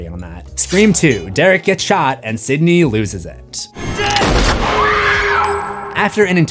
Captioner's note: screams